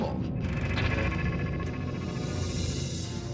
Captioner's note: rattling